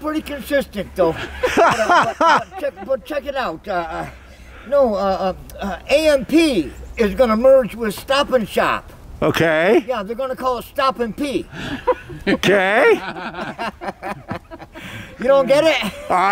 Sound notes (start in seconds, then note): 1.1 everyone laughing; 11.5 everyone laughing